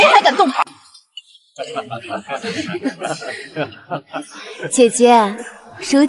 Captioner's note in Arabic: ها ها ها ها